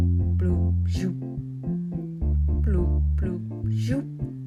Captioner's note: robot sounds